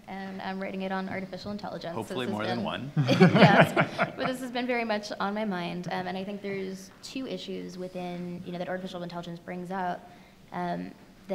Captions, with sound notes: and I'm writing it on artificial intelligence. - Hopefully more than one (laughs). - But this has been very much on my mind and I think there's two issues that artificial intelligence brings up